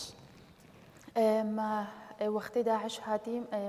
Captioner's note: speaking kurdish